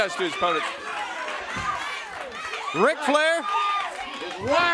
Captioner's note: crowd cheering